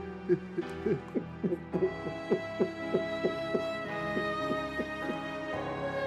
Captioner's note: sobbing